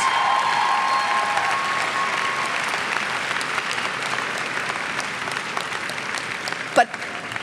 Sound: cheers and clapping

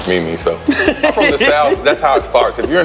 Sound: laughs

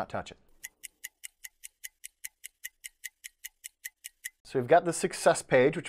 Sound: clock ticking

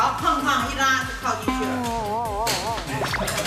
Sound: Xin-Ya can't stop laughing now

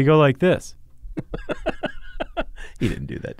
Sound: laughs

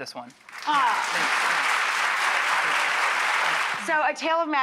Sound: audience applauds

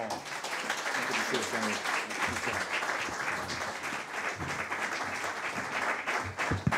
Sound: audience applause

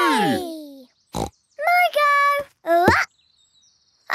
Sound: snorts

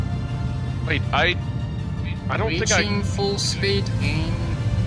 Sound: on the radio

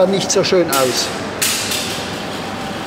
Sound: distant clicking

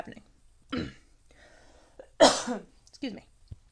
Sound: coughs

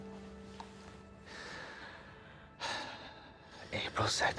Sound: breathes deeply

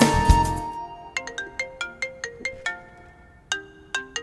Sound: cell phone ringing

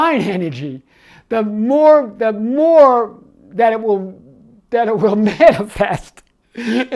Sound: laughs

